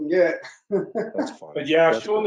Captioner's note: laughs